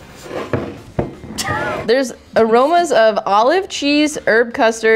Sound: laughing

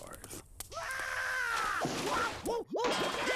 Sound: screaming

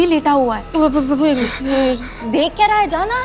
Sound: stammers

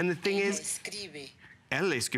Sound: foreign language

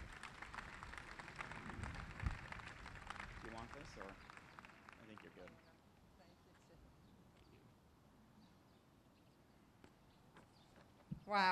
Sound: applause

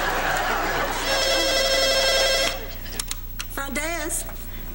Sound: phone rings

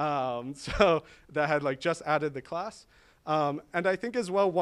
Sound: chuckles

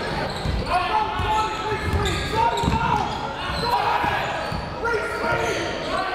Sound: crowd talking; coaches yelling

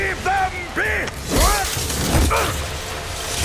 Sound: grunting; clanking

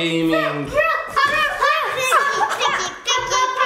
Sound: kids humming

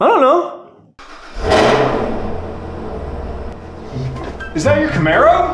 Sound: car starting

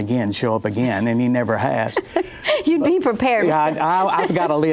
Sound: laughs

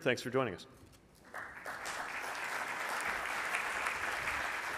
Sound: audience applauds

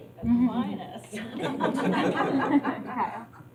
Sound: laughter

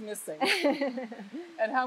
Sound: laughs

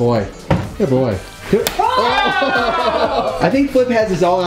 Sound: egg splats; group groans and laughs

